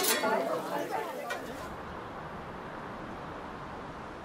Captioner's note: distant traffic noises